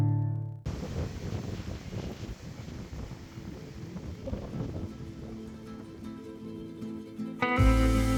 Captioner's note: wind sounds